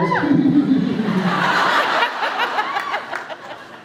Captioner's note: laughs; goofy laugh